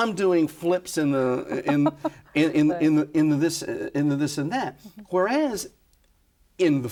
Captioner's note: laughs